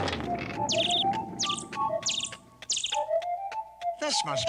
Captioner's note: tweet tweet tweet